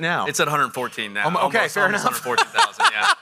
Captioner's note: laughs